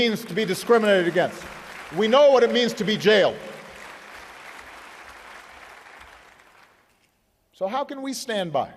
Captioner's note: applause